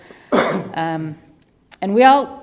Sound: coughs

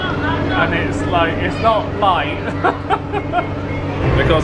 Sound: laughs

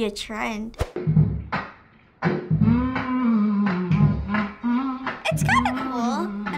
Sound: humming

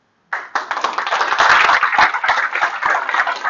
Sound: applause

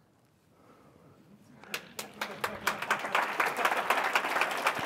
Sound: applause

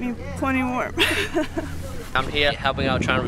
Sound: laughs

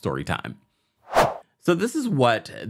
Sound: air whooshes

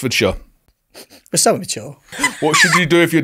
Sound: laughing

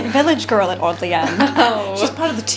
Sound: laughs

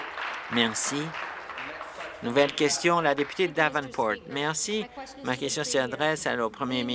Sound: applause

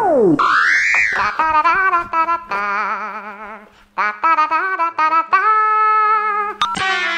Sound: phone ringing

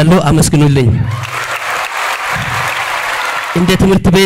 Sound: applause

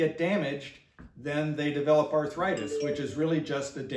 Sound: cell phone chimes

